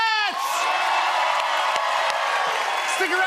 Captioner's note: cheers and applause